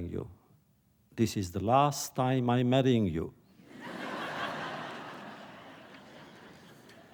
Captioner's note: laughter